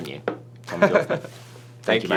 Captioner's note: chuckles